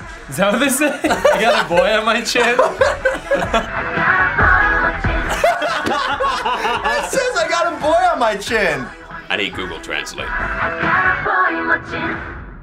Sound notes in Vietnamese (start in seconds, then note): 2.4 cả hai cùng cười; 5.2 cả hai cười sặc sụa